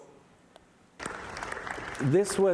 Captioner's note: applause